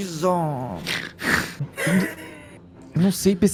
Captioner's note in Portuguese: Risos